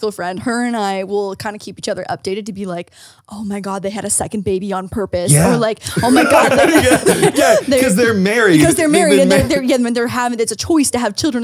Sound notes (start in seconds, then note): 5.9 everyone laughs